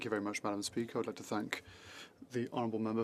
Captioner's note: speaking French